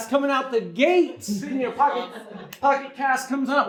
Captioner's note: audience laughs